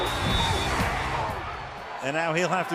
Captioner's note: whistles